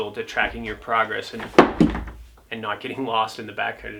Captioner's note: phone thuds